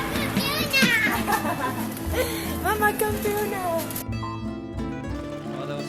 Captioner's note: laughs